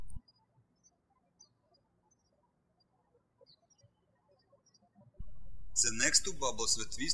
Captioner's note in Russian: птички щебечут